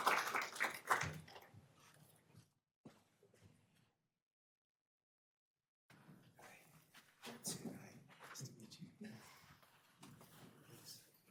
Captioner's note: applause